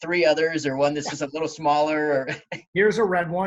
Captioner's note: laughs